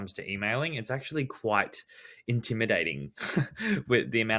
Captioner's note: laughs